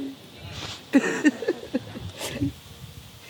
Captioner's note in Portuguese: Risada